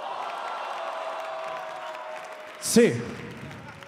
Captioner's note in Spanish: Aplausos